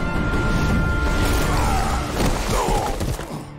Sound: groaning

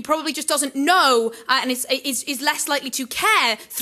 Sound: none

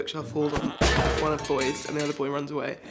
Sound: bookshelf clatters

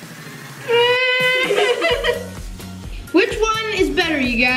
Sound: fake crying

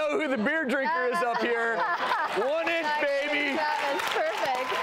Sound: women laughing

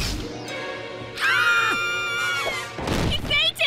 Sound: all scream

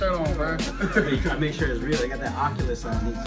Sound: laugh

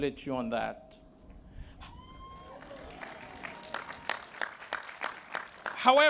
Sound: cheering

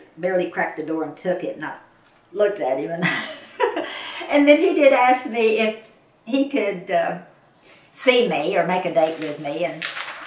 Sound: laughs

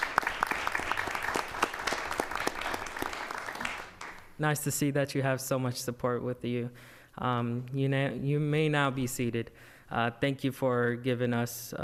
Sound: applause

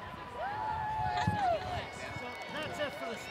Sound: applause

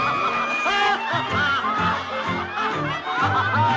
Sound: laughing

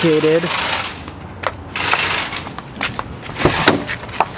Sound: power ratchet spinning

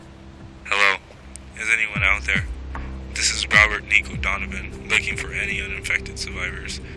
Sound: radio

